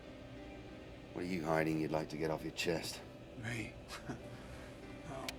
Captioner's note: chuckles